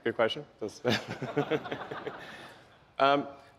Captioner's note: laughs